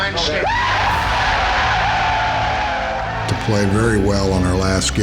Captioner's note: cheering